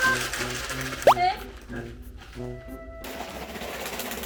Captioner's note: plop